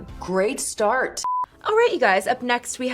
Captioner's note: beep